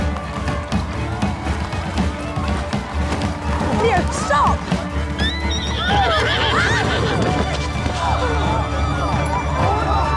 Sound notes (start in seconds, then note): 5.2 horse neighs